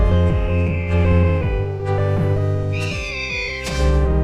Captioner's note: falcon screeching